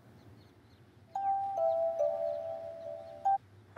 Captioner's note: Cell phone ringing